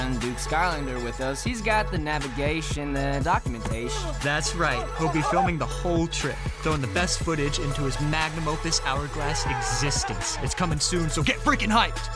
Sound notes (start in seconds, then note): 9.0 cheering